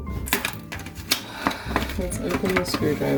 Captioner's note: another sigh